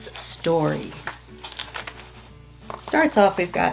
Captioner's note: paper rustling